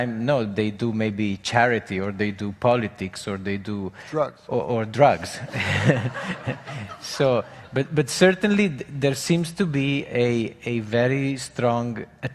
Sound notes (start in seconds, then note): 5.4 audience laughing